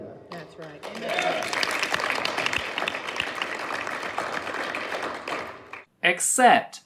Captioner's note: audience starts clapping